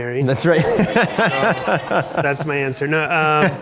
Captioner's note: laughs